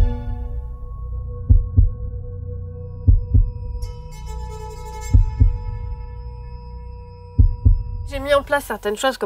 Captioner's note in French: battement de coeur